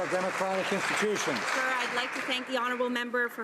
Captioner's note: some Applause